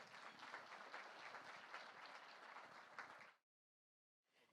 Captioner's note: applause